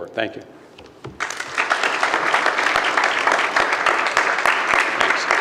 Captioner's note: regents applaud